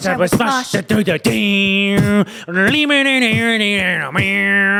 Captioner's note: vocalizes